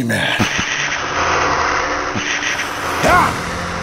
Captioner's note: Pepsiman roars